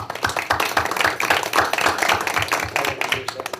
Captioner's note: applause